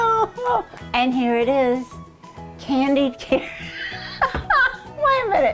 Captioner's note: laughing; laughing